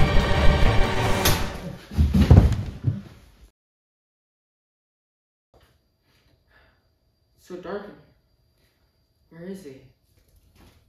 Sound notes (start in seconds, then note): 1.2 slap